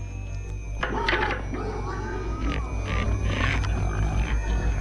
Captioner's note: pigs squealing